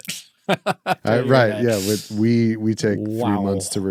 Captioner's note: laughing